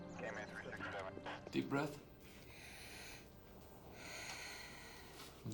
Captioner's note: breathes deeply